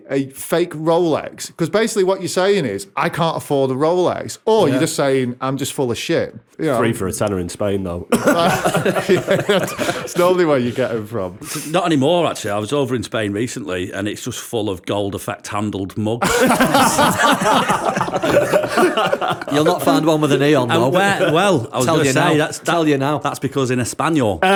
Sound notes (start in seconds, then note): 16.2 laughter